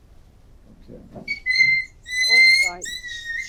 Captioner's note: Ruby whining